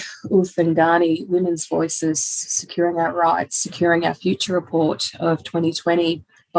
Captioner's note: women's Voices